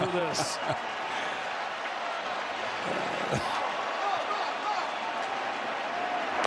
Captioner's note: laughs